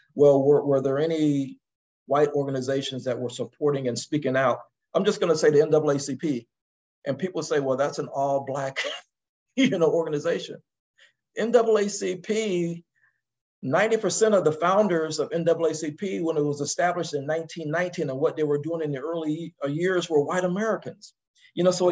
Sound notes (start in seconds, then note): 8.7 laugh